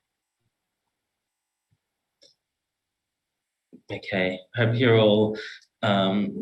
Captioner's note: audio cuts out